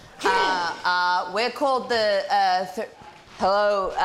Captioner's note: grunts